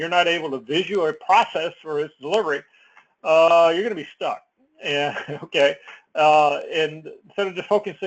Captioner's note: laugh